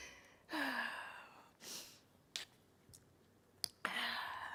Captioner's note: sighs